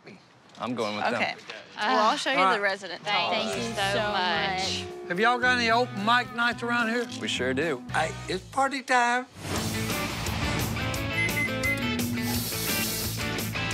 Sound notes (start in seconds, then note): 11.1 beeps, whirrs; 11.8 water running